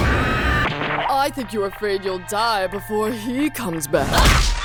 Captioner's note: deepish voice